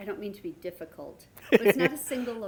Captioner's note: laughter